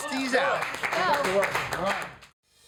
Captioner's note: clapping